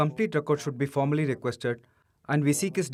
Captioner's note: speaking alternate language